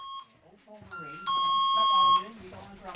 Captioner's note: doorbell